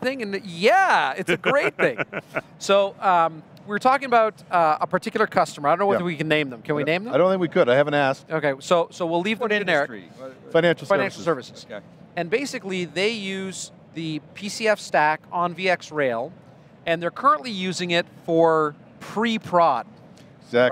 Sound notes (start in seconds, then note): 1.2 laughing